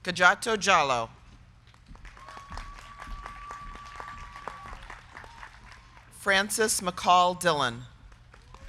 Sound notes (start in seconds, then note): 1.7 crowd clapping; 2.0 crowd cheering